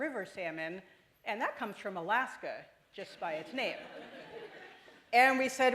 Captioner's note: laughter